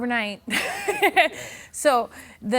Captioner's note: laughing